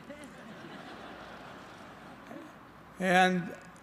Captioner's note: laughter